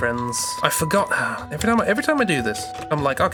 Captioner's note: sighs